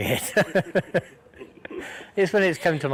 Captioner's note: laughter